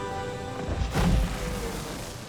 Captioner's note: body falls